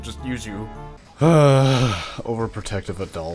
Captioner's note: sigh